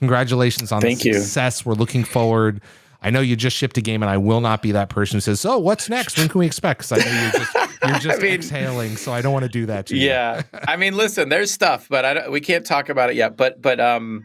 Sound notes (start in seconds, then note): 6.9 laughs